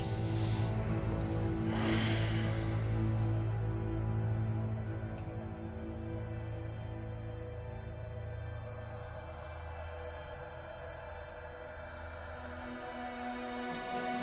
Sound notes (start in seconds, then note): 2.1 Robert sighing; 8.9 dramatic orchestral music continues